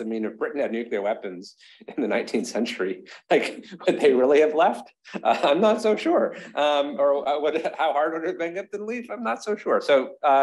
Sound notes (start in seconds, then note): 5.0 chuckles